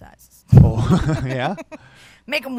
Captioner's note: both laugh